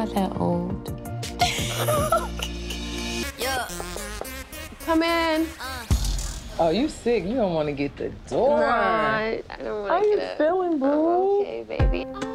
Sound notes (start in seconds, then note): 1.4 both laughing; 3.3 knuckles rapping